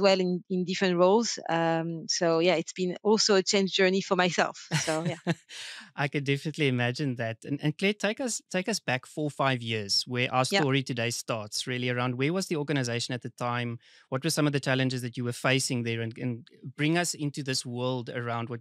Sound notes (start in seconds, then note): 5.7 laughing